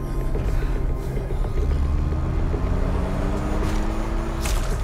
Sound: heavy breathing; engine rumbling; blood splattering

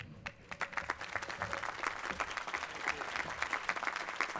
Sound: applause

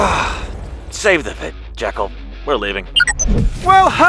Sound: sigh

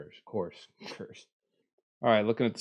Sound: laughs

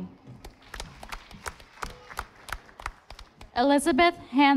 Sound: audience applauding

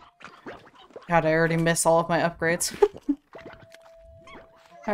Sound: laughs

